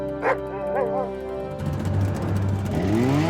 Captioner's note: dramatic music; Buck barking